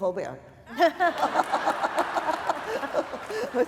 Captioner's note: laughter